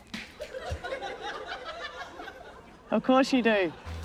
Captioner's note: laughter